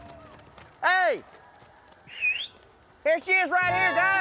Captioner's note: whistles